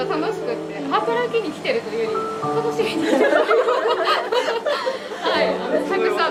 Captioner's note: laugh